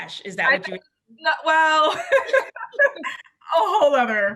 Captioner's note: laughs